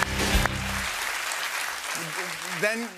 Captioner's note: applause